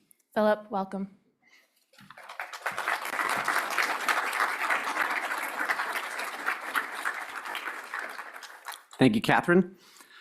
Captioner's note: audience applauds